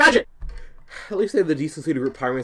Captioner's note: heavy breathing